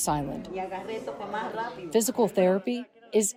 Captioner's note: patient speaking in foreign language